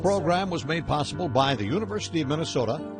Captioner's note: voiceover